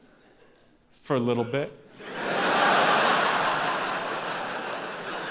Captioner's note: audience laughing